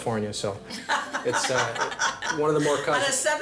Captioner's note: laugh